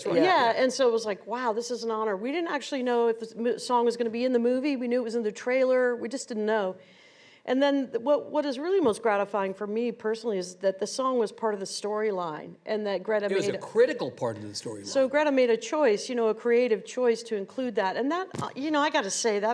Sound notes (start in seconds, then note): none